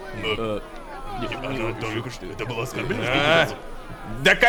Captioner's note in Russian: перешёптываются